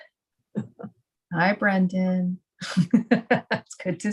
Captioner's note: laugh